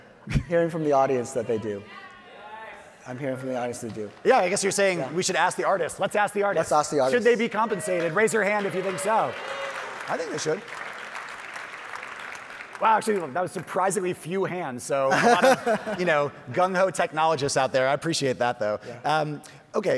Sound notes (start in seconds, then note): 0.2 chuckles; 3.1 audience applauding; 7.4 audience applauding; 8.5 audience hollering; 15.0 laughing